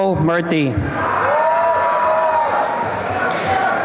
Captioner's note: applause and cheering